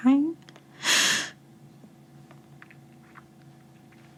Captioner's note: deep breathing